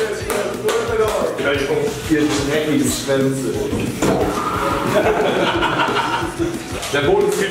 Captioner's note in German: Gelächter